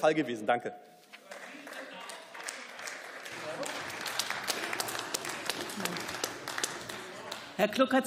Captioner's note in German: Beifall